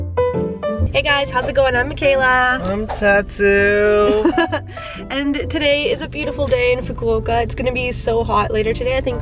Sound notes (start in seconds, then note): 4.0 laughs